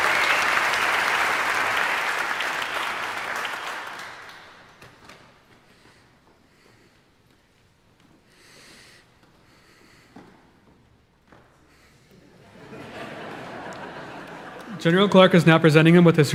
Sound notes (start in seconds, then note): 12.2 audience laughing